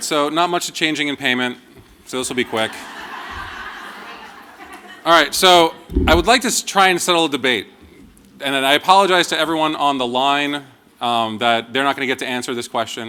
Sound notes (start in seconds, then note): 4.8 laughter